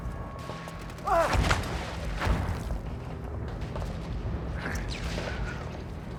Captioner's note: soldier shouting in surprise; grunting in effort